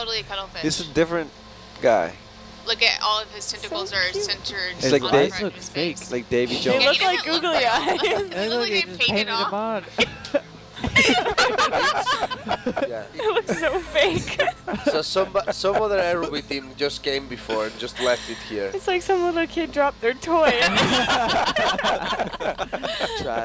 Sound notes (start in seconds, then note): 10.7 all laughing; 20.4 all laughing